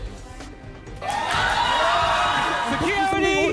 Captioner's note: audience cheering